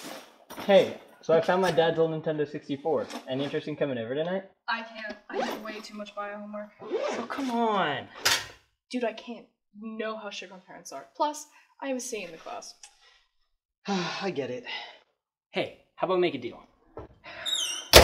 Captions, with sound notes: Hey, so I found my dad's old Nintendo 64. Any interesting coming over tonight? Oh, come on! Dude, I can't. You know how strict my parents are. Plus, I have a C the class. (sigh) I get it. Hey, how about we make a deal?